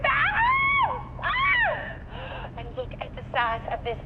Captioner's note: yelping